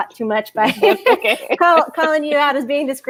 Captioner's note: laughs